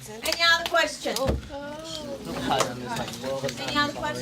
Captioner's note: chatter